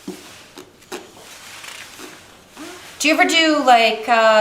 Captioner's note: blowing raspberry